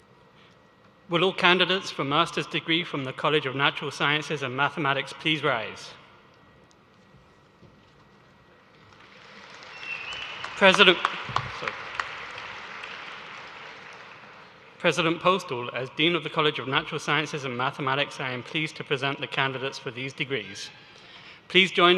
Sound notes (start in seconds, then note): 11.1 applause